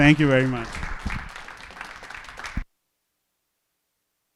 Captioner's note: applause